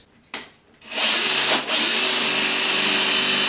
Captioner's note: drilling